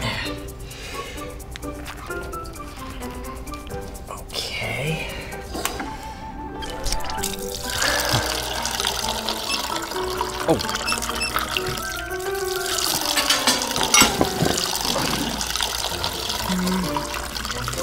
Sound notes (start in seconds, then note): 6.8 juice splashing; 10.5 tap squeaking